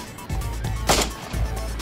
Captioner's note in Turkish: geri̇li̇m müzi̇ği̇ çaliyor; si̇lah sesi̇